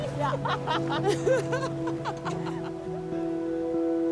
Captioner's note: both laugh; serene music